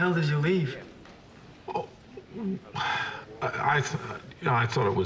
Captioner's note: sighs